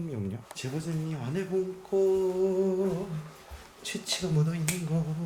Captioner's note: humming